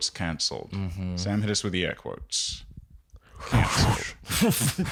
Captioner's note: whooshing noises